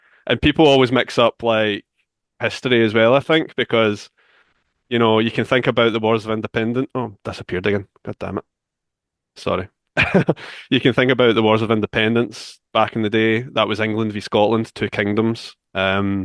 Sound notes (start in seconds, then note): 10.0 chuckles